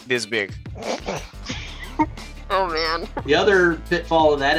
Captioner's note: chuckles